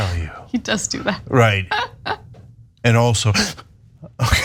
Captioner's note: laugh